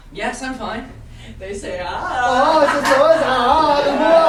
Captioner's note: speaking grammelot; speaking grammelot